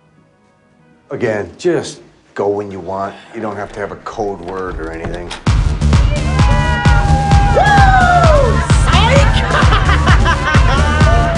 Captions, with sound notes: - Again, just go when you want. You don't have to have a code word or anything. [dance music] [cheering] - Whoo! Psyche! [laughs]